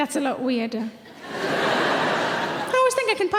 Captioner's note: audience laughing